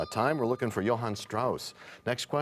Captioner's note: bell rings, time expires